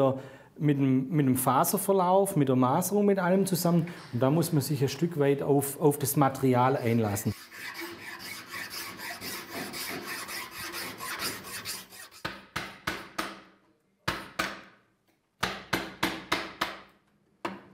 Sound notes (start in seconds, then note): 12.1 hammering